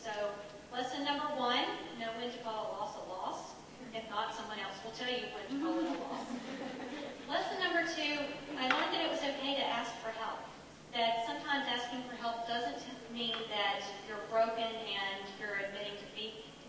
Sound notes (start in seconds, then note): 5.6 audience laughing